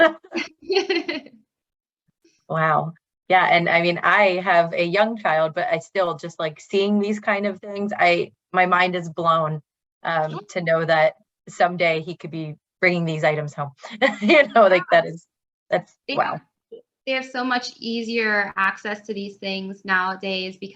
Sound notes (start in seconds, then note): 0.0 both laughing; 14.2 laughs